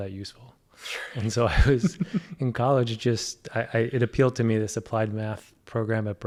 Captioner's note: laugh